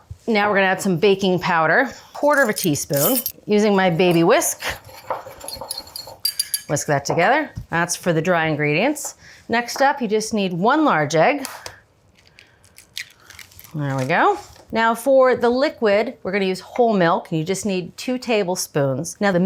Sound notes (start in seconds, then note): 6.1 whisk whirring; 12.7 eggshell cracks